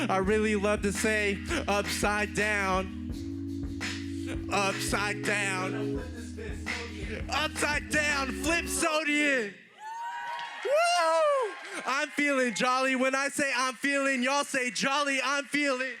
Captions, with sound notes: I really love to say upside down. (Applause) >> I'm feeling jolly,